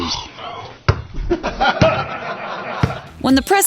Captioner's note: laughter